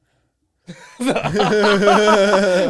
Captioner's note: laughing